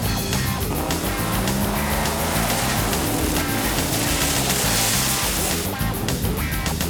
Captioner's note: car engines revving; water splashing